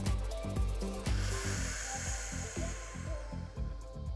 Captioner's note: inhales; exhales